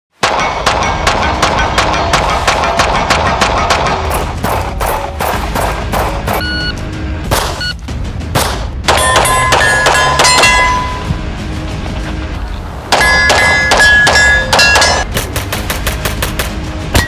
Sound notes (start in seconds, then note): 0.2 gun shots firing; 0.5 intense music